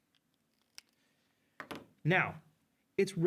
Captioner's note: marker clacks